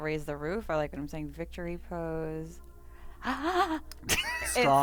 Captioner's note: gasp